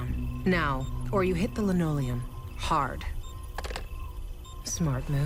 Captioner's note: receiver clicks